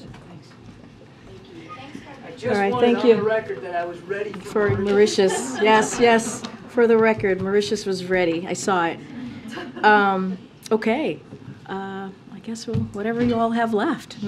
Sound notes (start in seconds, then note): 5.2 laughter; 9.2 laughter